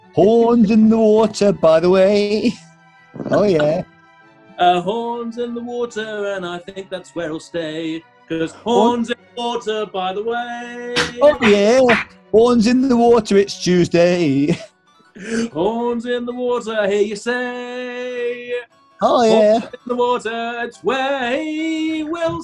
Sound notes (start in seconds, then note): 3.2 laughing; 10.9 claps in time